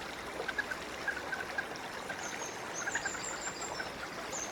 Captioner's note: Moorhen alarms